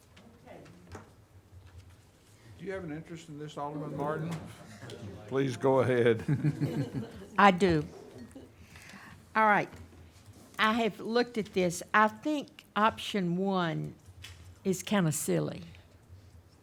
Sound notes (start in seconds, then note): 6.2 chuckles